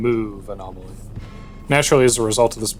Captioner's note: assault and battery sounds